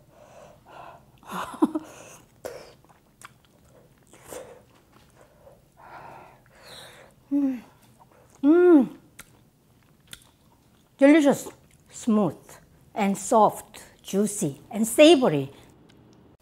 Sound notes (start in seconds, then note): 1.3 giggles